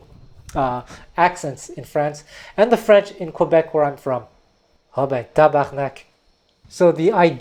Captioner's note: speaks French